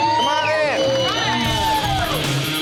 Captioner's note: cheer